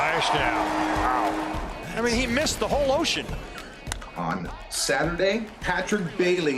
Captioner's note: cheers and Applause